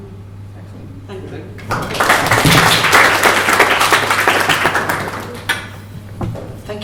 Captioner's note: applause